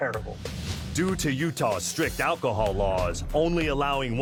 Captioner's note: voiceover